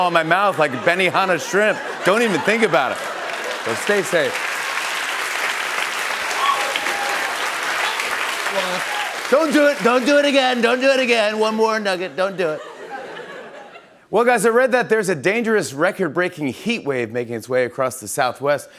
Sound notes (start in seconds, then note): 5.1 applause; 12.2 laughter